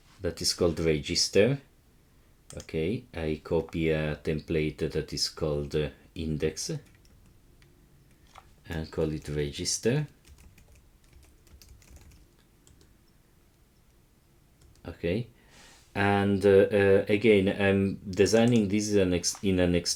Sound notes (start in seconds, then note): 11.0 keyboard clicking